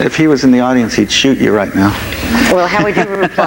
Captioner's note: laughs